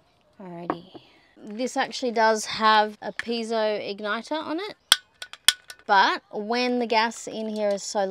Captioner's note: clicks it twice